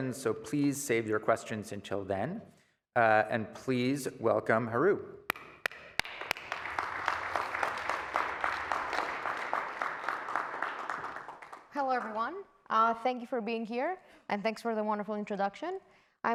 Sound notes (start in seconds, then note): 5.3 applause